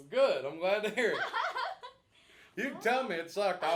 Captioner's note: laughing